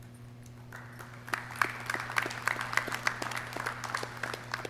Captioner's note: clapping